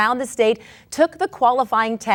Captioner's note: none